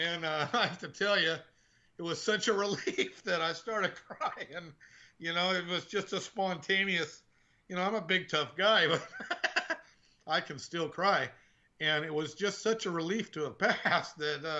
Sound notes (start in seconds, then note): 8.9 laughing